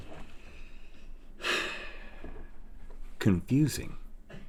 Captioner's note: sighs